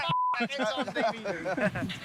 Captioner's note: all chuckle